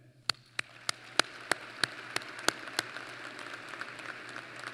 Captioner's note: applause